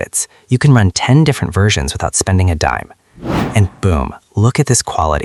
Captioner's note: sound of a "whoosh" or "reveal"